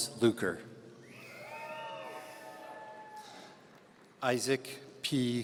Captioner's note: audience cheering